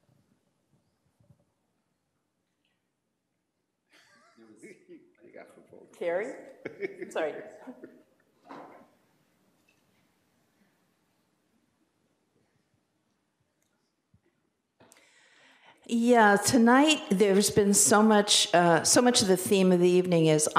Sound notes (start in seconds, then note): 4.3 laughing, speaking faintly